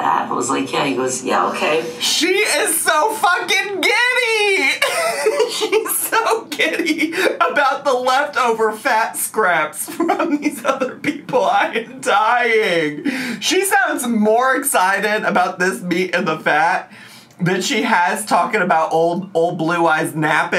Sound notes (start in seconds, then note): 4.6 laughs